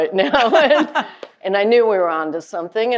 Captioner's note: laughing